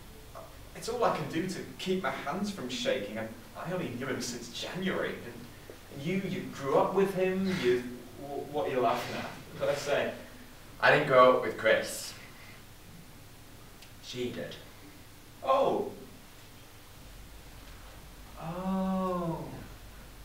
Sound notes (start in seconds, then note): 7.8 laughs